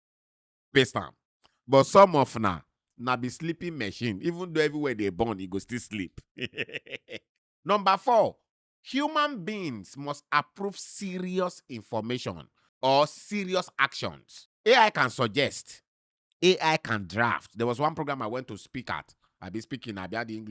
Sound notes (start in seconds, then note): 6.3 laughing